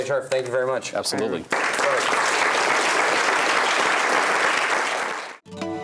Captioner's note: applause